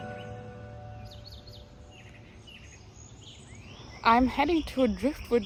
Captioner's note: birds chirping